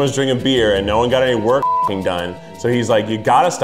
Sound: beep

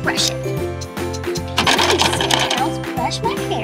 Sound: upbeat playful music; box clacks

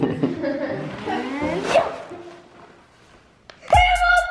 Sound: laughter; paper ruffling

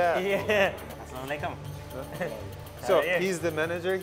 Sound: speaking foreign language

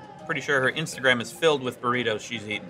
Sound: none

